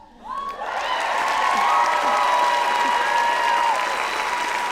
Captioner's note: audience applauding